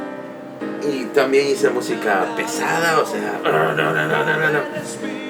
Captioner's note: imitates noise